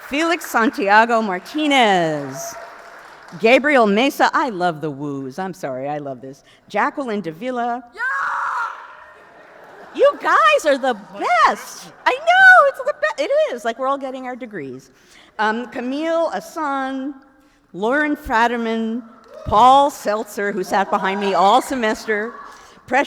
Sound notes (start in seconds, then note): 8.7 audience cheers